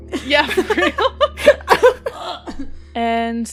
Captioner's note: laughter